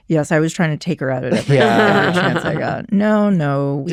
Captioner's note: others laughing